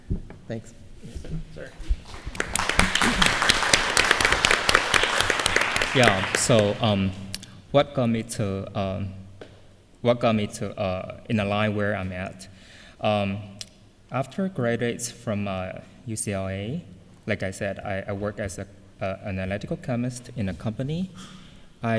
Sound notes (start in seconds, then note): 2.0 applause